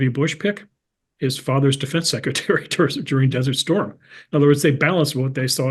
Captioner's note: laugh